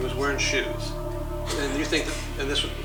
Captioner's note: laughs